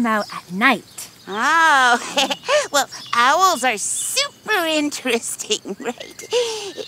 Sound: giggles

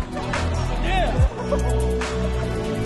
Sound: giggle

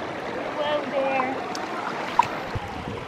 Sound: splash

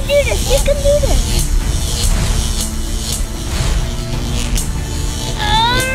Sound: electrical shocking continues; screaming with exertion

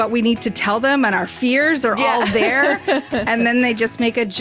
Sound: laughs

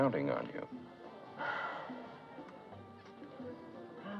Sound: sighs

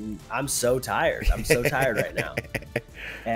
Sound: laugh

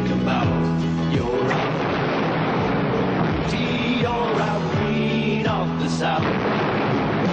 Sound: boom

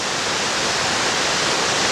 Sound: loud waterfall sounds

